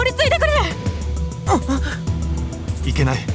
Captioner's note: gasp